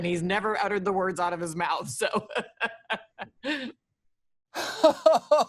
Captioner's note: laughs; laughs nervously